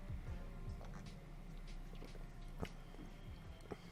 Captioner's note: distant slurping noises; lips smacking